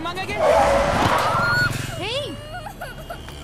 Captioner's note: Brakes squeal